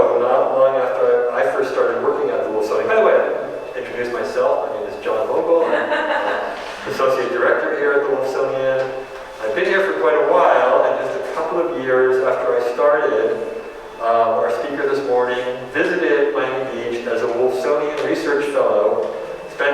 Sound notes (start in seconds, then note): 5.5 audience chuckling